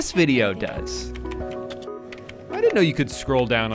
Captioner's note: keyboard ticking